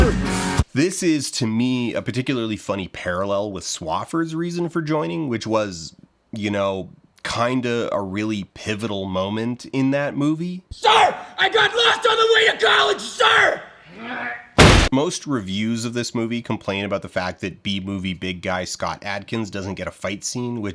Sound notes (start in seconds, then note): 14.5 clang